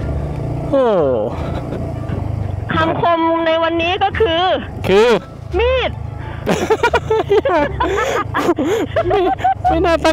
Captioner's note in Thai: เสียงหัวเราะ